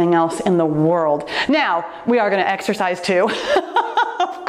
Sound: laughs

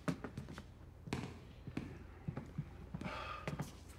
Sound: sighs

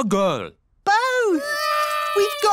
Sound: babies cry

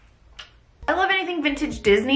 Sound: smooches

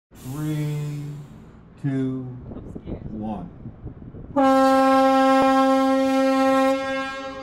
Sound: horn blowing

